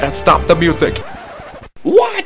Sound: record scratch

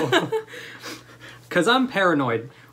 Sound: laughter

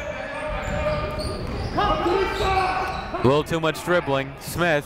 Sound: shouting

